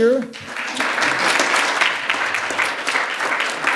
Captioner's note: applause